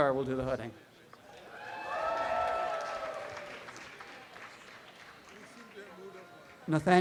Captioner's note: audience applause